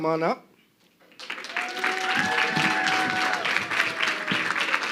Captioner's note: crowd clapping